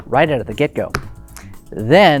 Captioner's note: slams cards